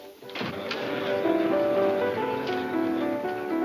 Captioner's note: crowd chattering